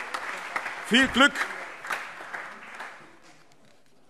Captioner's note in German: Allgemeiner Beifall